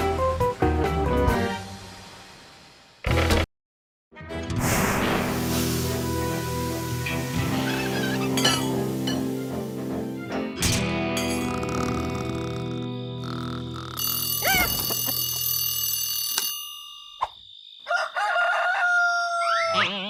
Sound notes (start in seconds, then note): 4.8 branding iron sizzles; 6.5 horseshoe creaks; 8.4 clanking; 10.7 crickets chirping; 13.9 alarm clock ringing; 15.5 alarm stops; 17.8 crowing; 19.0 boing